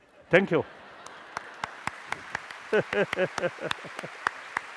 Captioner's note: applause